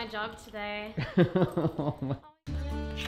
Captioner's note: laughing